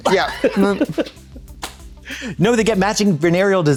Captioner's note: Katya hee-hees